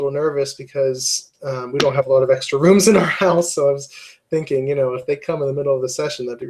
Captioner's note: laugh